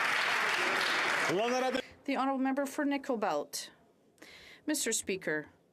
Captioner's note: some Applause